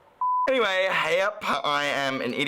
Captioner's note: beeps